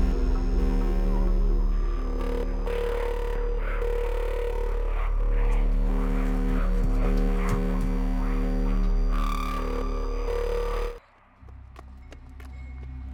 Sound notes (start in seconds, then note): 5.4 rapid footsteps